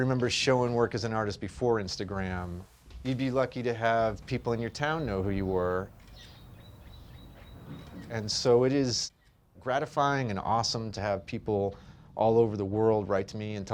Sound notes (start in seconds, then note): 5.9 camera snaps